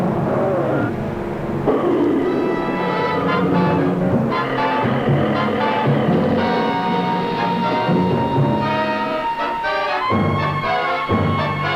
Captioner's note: screaming; growling